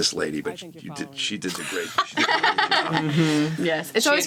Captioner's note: laughs